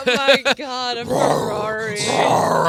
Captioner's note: roaring